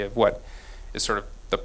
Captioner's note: none